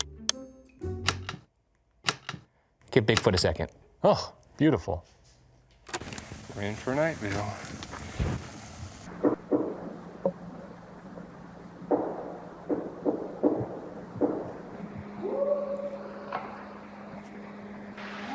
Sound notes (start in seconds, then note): 1.0 transition clacking; 5.9 recording hissing; 9.1 mysterious banging; 15.1 Bigfoot howling